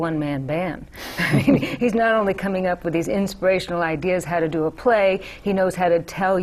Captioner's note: laughter